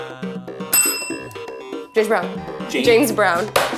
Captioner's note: bell rings